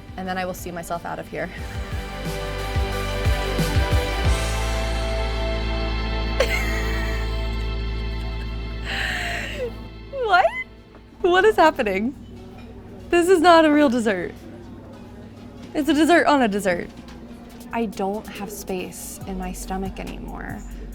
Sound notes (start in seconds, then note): 4.0 upbeat music; 9.0 chuckling